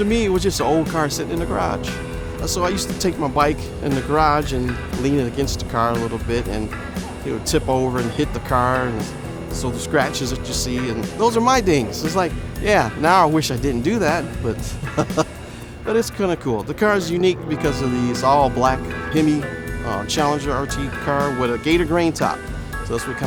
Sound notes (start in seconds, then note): 14.1 laughs